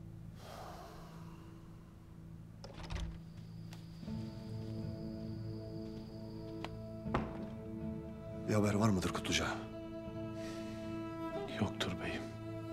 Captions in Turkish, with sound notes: (Kapı açılma sesi) (El vurma sesi) (Kapı kapanma sesi) Bir haber var mıdır Kutluca? Yoktur beyim.